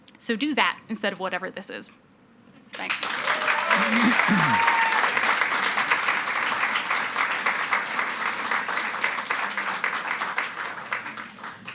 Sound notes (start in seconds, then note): 2.8 audience cheering and clapping